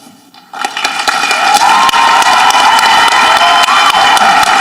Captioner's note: audience applauding